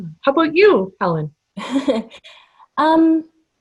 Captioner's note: laughter